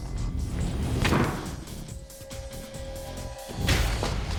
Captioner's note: thudding